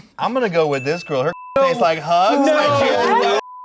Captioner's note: beep